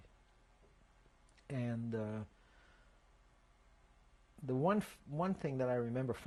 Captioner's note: pauses for 3 seconds